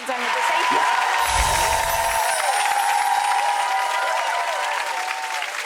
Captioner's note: audience cheering